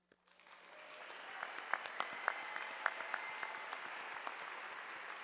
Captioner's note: audience applauding